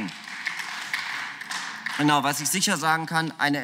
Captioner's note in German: Beifall